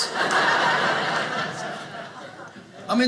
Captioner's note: audience laughing